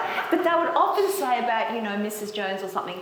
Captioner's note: laughs